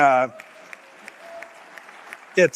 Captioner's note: audience applauding